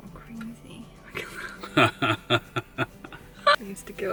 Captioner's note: laughter